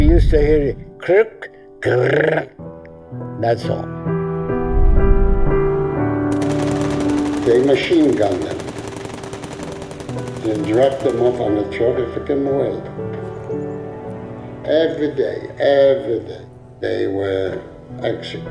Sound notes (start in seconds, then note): 0.0 soft poignant music; 2.2 mimicking gunfire; 6.3 gunfire blasting